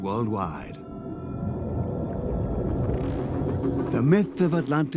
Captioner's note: bubbling sound